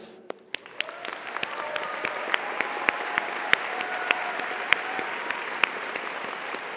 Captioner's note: audience applauds; audience cheers